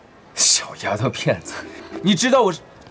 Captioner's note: disparaging tone